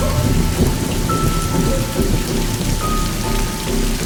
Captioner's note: thunder rolling